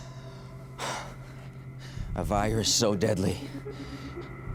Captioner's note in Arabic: يزفر بعمق